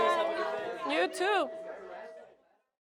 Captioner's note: students chattering